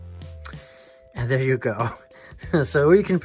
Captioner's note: chuckles